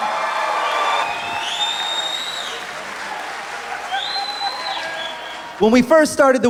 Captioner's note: applause